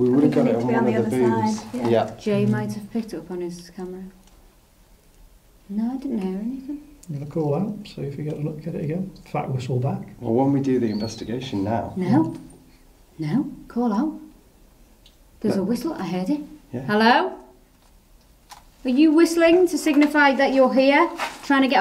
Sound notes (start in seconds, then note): 10.7 faint whistling